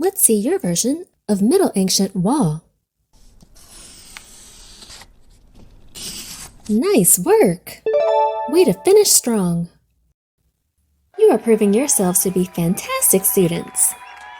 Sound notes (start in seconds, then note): 3.5 pencil scratches; 7.9 check mark dings